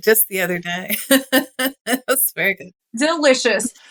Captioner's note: laugh